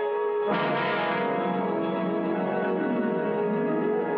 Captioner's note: none